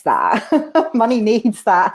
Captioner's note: laughter